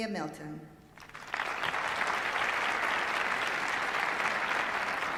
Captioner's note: applause